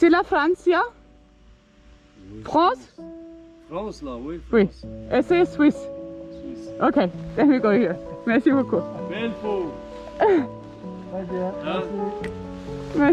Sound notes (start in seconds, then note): 0.0 man speaking foreign language; 9.5 man speaks French; 10.2 woman laughs